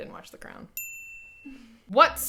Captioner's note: bell dings